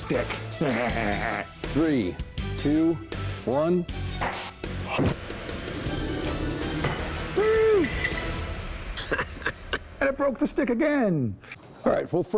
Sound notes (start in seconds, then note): 0.5 laughs; 4.1 whoosh, clang; 9.0 laughs